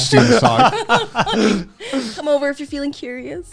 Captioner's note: laughing